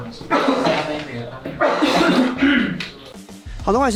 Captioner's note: everyone starts coughing for some reason